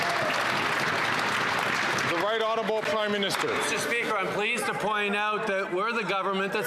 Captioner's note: some Applause